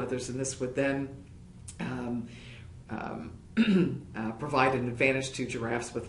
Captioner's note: cough